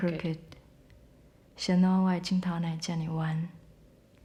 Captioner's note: speaking Taiwanese